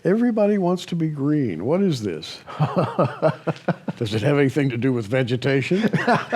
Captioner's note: chuckles; laughter